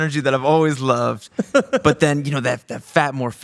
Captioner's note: laughing